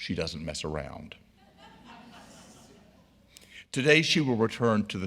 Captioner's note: audience laughing